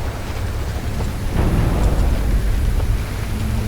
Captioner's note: distant BOOM